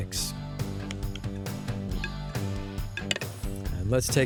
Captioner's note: spoon hitting bowl